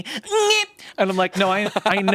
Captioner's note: yells